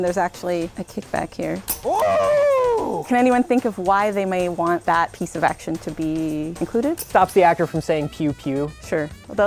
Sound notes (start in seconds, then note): 1.7 clicks